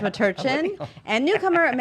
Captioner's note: laughs